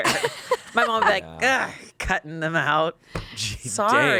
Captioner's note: groans